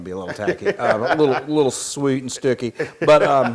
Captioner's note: laugh